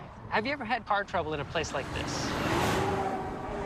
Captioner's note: roaring of truck